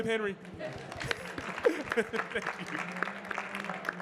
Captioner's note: audience clapping; laughing